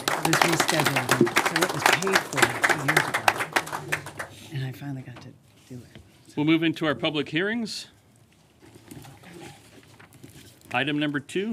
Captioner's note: applause